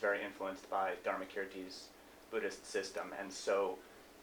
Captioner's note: non-english speech